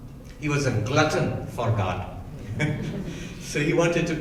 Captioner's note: laughing